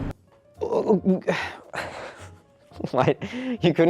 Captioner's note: astounded gibberish; sigh; giggling